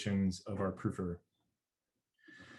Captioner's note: murmurs